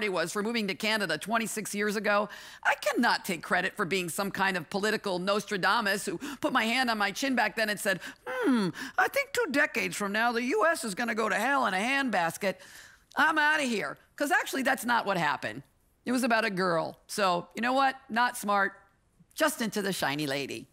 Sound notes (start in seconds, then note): none